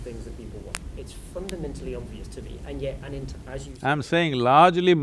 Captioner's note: slight audio disturbance